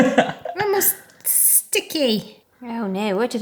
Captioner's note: chuckling